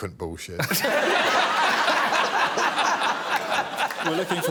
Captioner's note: all laughing